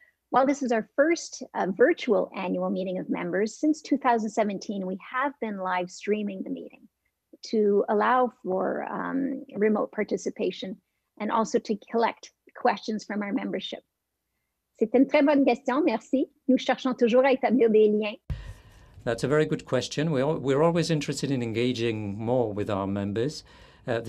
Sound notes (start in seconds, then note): 14.5 French